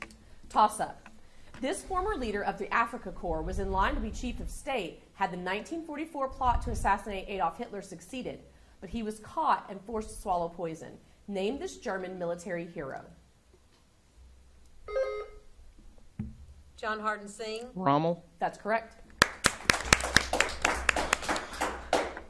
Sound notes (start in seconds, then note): 14.8 buzzer sounding; 19.2 audience applauding